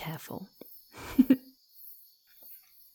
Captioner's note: giggling